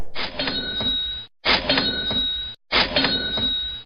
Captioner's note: cash register ringing